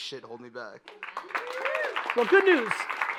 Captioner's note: audience applauding